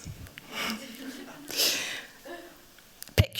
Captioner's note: laughter